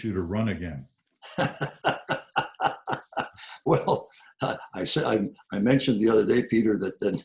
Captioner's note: laughs